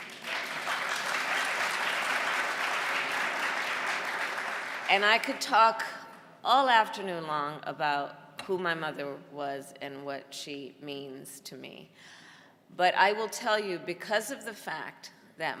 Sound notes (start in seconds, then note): 3.5 applause